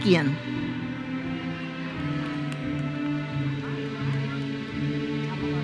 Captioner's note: audience cheers and applauds